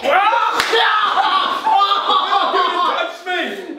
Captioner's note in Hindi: चिल्ला